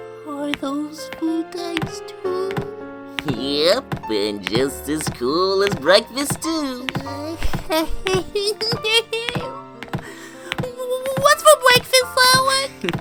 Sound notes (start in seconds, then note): 8.4 giggles